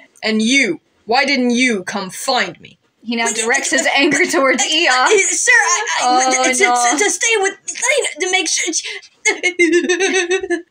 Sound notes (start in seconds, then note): 4.5 Stutters in Eeyok's Voice; 6.1 splutter; 9.5 tearful Whimper